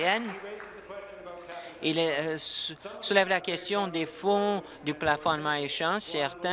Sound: applause

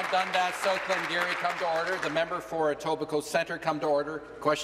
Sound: applause

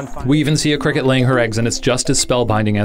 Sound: voiceover

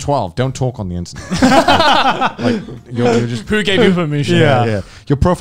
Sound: men laughing

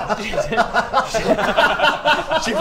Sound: laughter

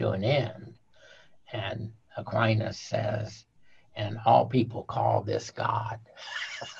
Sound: laughing

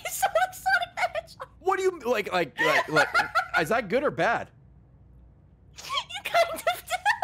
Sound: laughs

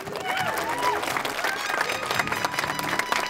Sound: crowd applauds

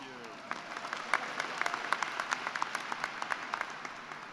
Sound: applause

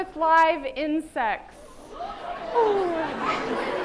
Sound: chattering

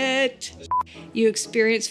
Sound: beep

